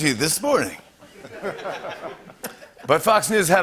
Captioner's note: laughter